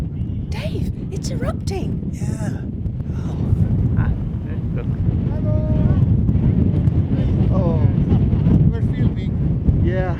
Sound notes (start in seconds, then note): none